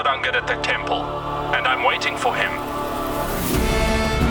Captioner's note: male Voice